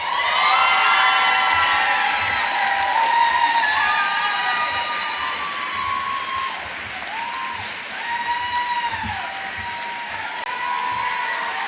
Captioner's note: cheers and applause